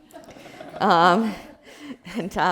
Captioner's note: audience laughing